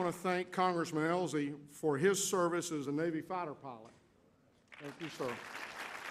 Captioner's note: applause